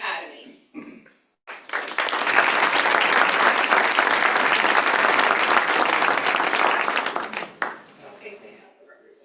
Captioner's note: applause